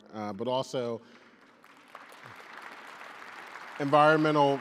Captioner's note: audience applauding